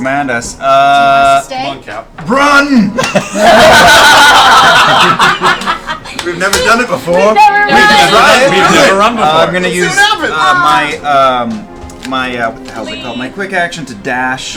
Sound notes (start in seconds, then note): 2.9 all laugh